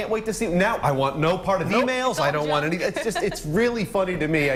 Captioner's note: laughter